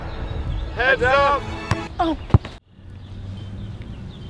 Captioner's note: voiceover